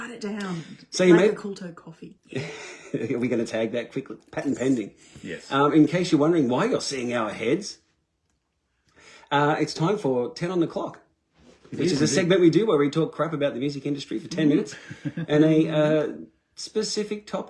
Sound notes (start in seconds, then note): 2.3 laughter